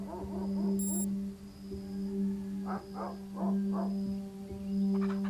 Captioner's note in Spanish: gallinas graznando; música reflexiva